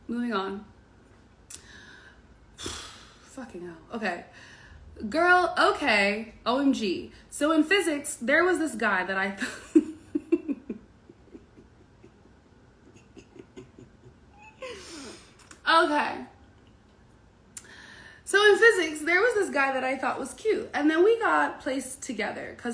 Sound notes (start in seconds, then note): 10.9 laughs